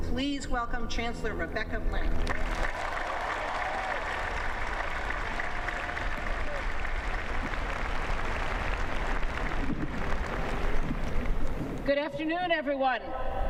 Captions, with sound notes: Please welcome Chancellor Rebecca Blank. [ Applause ] >> Good afternoon, everyone!